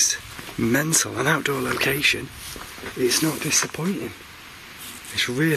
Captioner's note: none